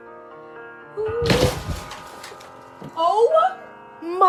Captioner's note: ceiling crumbling